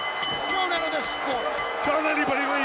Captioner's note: bell ringing